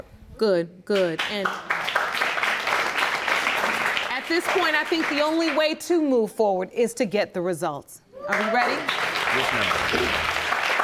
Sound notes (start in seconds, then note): 1.4 audience applauding; 8.2 audience cheering